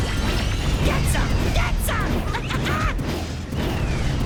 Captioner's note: laughs